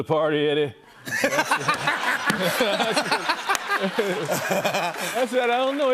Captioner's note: laughter